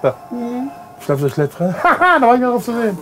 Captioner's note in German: Er lacht